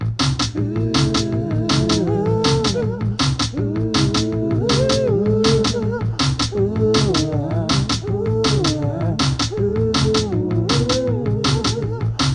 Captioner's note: percussive music; multiple vocalizations get louder